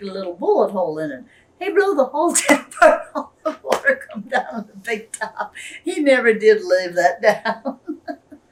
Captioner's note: laughs